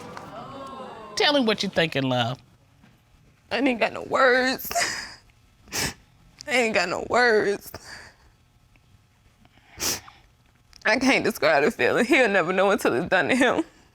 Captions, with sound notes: Tell me what you're thinking, love. I ain't got no words. [sobs] I ain't got no words. I can't describe the feeling. He'll never know it's until it's done to him.